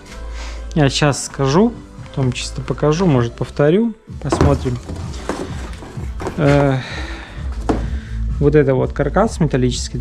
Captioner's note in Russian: вздыхает